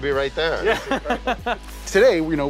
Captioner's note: laughing